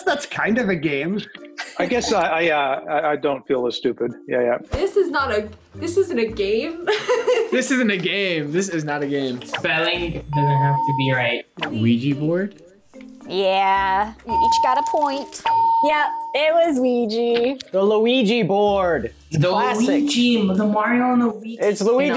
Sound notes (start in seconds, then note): 6.8 laughs; 10.3 bell rings